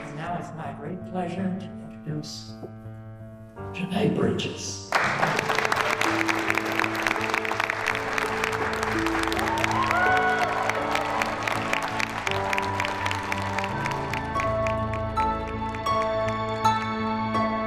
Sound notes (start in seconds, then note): 5.1 applause; 9.8 cheers and applause